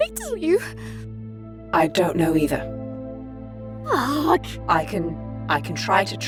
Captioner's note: groans